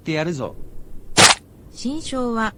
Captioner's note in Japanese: 戟で刺す音